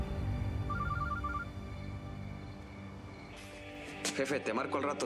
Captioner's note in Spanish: suena el celular